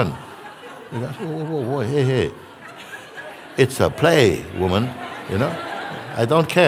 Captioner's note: laughter